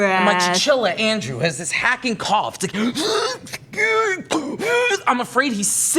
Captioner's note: weird cough